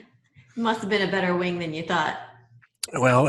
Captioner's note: laughs